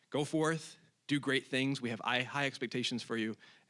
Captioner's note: none